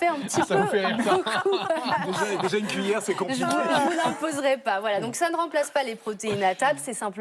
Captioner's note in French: rires